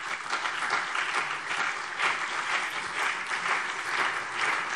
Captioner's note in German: Beifall CDU und BÜNDNIS 90/DIE GRÜNEN